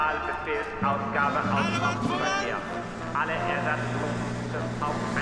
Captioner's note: speaking german; shouting in german